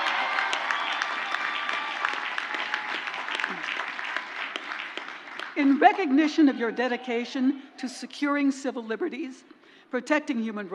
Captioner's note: crowd cheers; crowd applauds